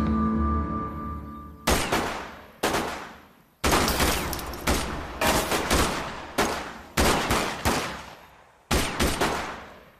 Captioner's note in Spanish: Disparos